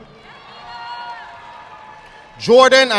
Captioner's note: audience clapping